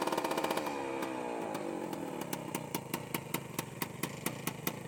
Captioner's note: engine sputtering